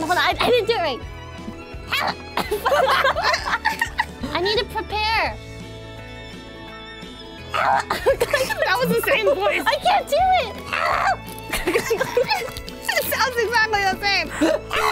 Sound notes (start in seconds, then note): 7.6 laughs